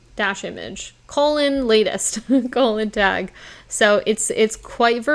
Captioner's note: chuckles